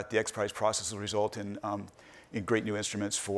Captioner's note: none